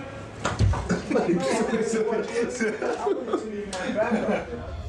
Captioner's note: Manny laughing